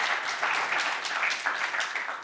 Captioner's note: applause